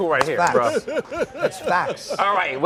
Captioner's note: laughter